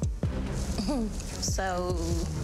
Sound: chuckles

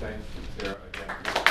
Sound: applause

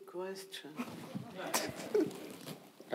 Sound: audience laughing

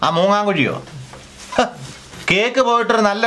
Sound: scoffs

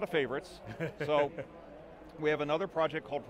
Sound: laughs

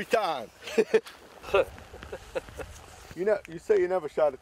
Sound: chuckling

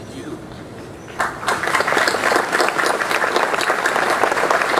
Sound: audience applause

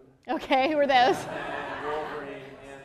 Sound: laughter

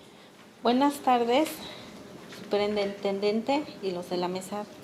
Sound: speaking Spanish

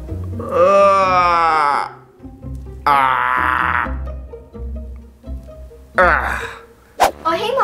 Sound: groan

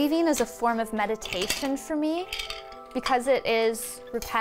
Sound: shuttle rattles

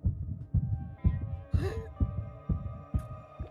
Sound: gasping

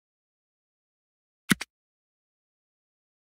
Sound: click

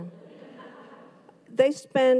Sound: audience laughs

